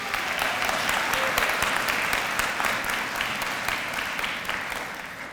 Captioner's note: applause